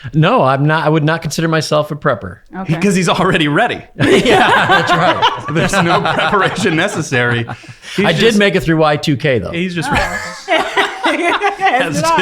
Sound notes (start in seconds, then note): 4.0 laughing; 9.6 laughing